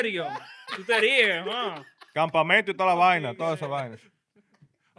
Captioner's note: laughing; speaking In Foreign Language